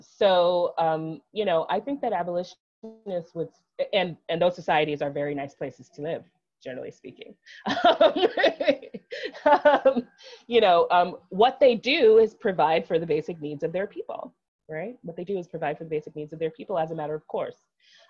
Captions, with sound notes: So I think that abolitionist would... And those societies are very nice places to live, generally speaking.(laughs) What they do is provide for the basic needs of their people. What they do is provide for the basic needs of their people, as a matter of course.